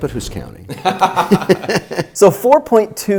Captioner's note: both laugh